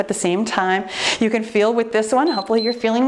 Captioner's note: timer beeps